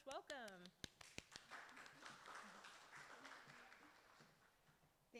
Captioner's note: audience clapping